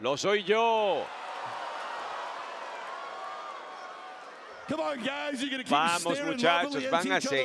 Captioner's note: applause